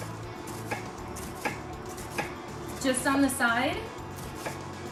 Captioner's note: knife slicing